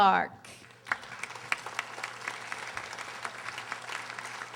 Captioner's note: audience applauding